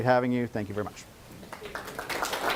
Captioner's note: class Clapping